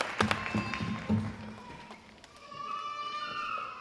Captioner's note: babies crying